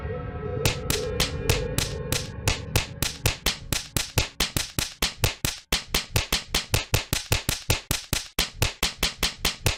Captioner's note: punching sounds